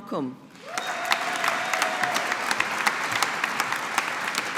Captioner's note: audience applauding